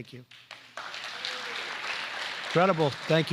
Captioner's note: applause